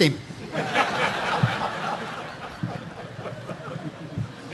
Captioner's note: audience laughing